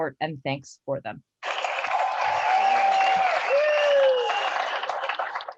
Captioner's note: applause